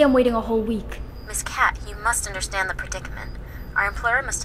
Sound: woman on phone

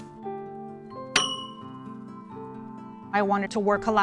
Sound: ding

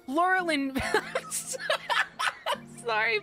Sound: laughter

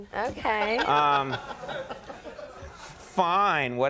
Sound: Andy laughs

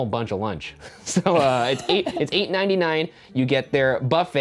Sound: chuckling

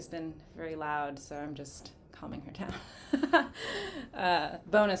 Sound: laughs

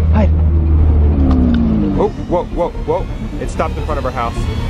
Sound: car engine slows

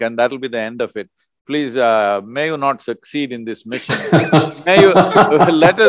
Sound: laughter

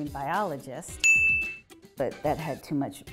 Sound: bell dings

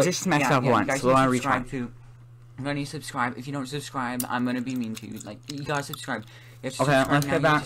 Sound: ccccchhheeews

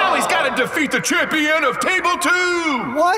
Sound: crowd groans; crowd cheers

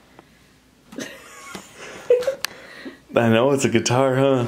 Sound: laughing

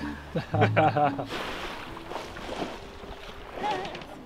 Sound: laughter

